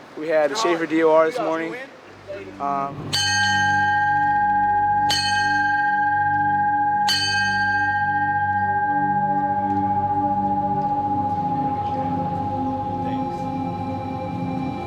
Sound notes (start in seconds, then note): 2.0 foreboding music; 3.1 bell rings 3 times